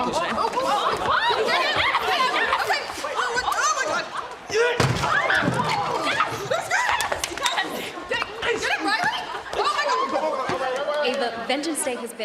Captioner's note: yelling